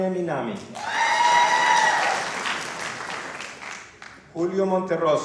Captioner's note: applause